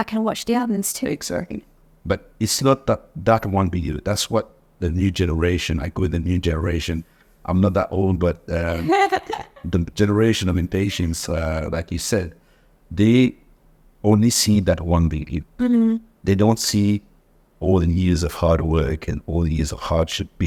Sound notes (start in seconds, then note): 8.6 laughs